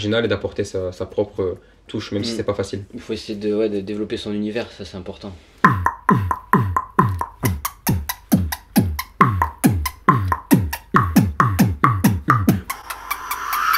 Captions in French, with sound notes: et d'apporter sa propre touche, même si c'est pas facile. -Il faut développer son univers. Ça, c'est important. (beatbox)